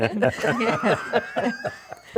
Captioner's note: laughing